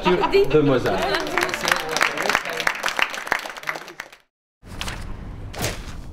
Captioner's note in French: Applaudissements